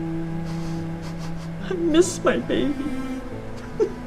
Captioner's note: softly sobs